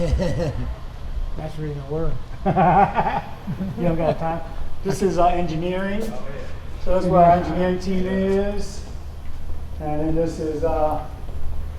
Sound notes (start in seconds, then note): 0.0 Richard laughing; 2.4 both men laughing